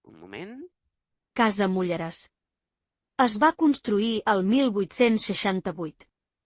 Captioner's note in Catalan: veu sintètica